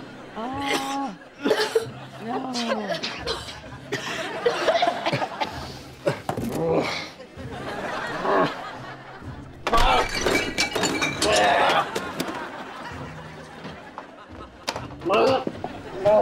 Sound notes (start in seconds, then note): 1.3 coughing, groaning; 2.3 coughing; 6.4 groaning; 11.0 groaning; 14.6 groaning